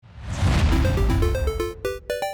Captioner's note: screen whooshes; bright 8-bit music